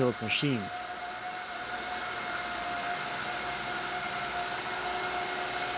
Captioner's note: CNC machine whirring